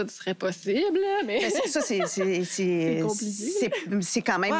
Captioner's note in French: rires